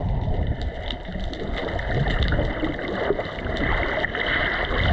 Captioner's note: water burbling